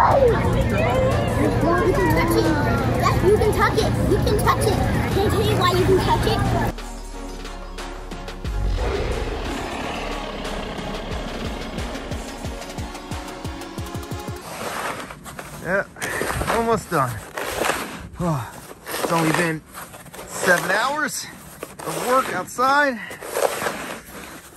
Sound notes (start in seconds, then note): 0.0 excited children screaming; 6.9 happy music; 8.5 animals roaring; 17.5 shovel scraping snow and ice; 23.7 sighs